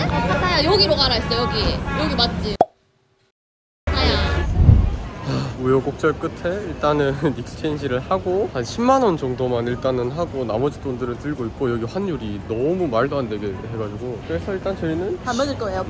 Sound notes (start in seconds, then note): 5.2 sighs